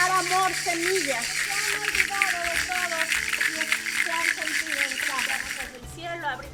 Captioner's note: speaking in Spanish